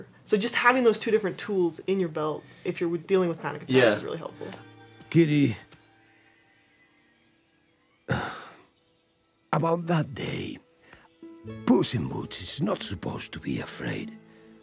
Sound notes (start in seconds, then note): 8.0 sighs